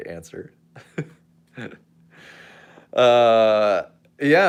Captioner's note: laughs